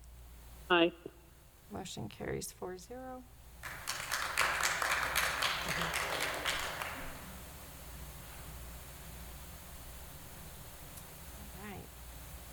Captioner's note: applause